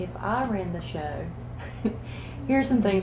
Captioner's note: laughter